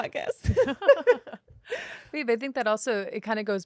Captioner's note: both laughing